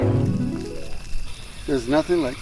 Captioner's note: crickets